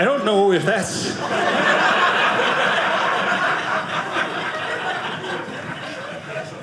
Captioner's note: audience laughing